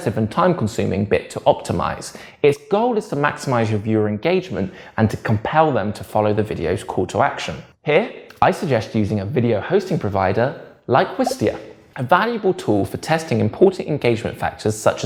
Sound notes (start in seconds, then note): 11.2 bubble pops